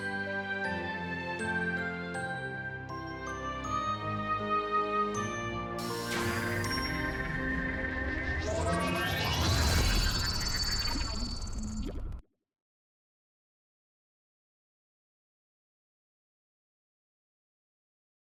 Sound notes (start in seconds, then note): 0.0 gentle music continues; 6.2 video whirring